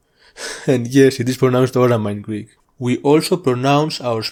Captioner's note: laughs